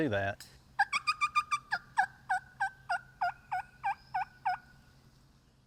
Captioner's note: turkey call clucking